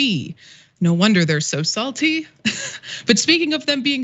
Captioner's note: laugh